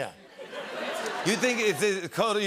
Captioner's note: laughter